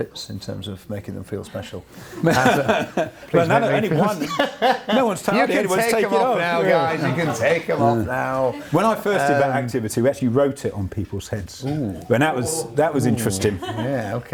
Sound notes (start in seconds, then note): 2.1 laughs